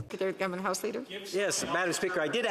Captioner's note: speaking French